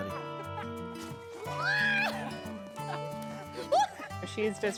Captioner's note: shouting and laughing